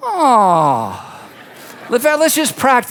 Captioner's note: audience laughs